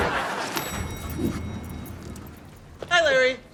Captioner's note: audience laughter; elevator dings